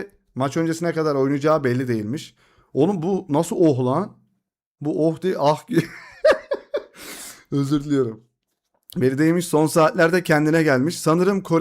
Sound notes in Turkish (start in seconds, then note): 5.7 kahkaha